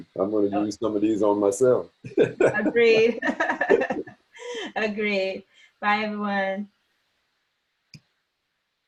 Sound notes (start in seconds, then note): 2.0 laughing